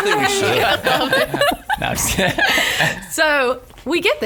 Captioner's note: laughs